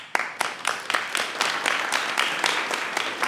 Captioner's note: applause